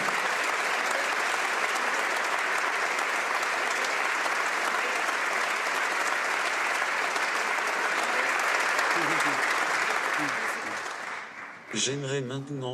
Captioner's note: applause